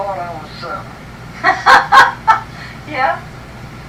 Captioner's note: laughter